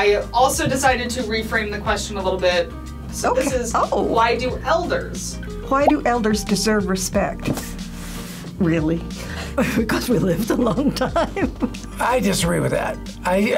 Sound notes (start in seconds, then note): 10.6 laughs